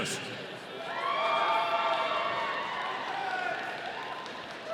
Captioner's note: audience cheering